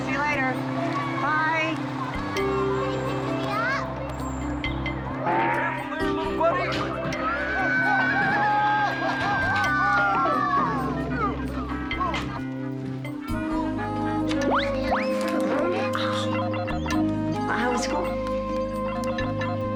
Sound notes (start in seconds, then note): 12.0 zooming; 13.7 laughs; 15.9 electronic beeping